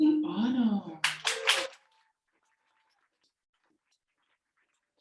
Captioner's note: audience applauding